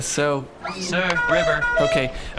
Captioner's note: D-34_LR presses a horn